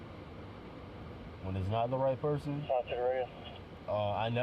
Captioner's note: radio chatter